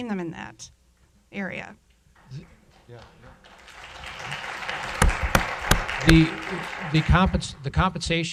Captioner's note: applause